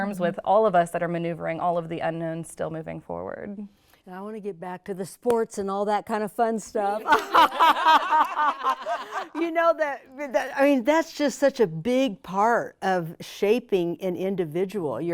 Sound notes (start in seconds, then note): 7.0 all laughing